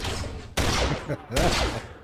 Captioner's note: laughs